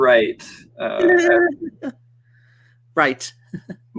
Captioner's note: chuckles